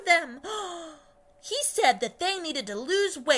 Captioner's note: gasp